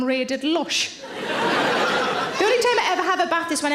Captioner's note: audience laughs